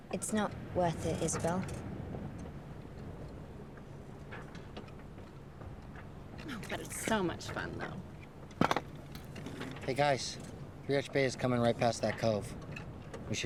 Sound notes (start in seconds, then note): 8.2 compass clatters